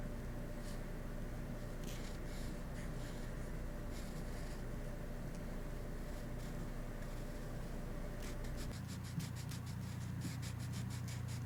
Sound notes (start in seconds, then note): 2.3 pencil scratches